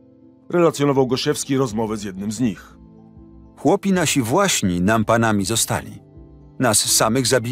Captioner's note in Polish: Lektor